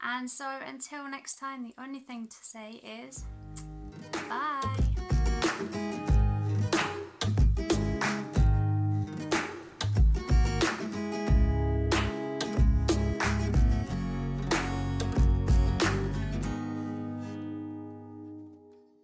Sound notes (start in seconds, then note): 5.4 kiss